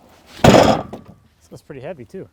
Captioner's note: thudding